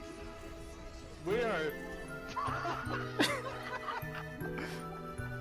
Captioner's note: everyone dies and cracks up